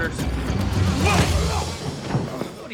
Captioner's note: grunting